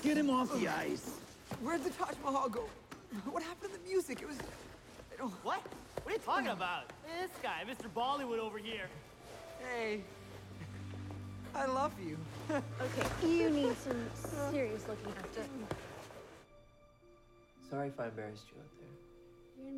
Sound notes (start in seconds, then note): 11.8 nervously laughing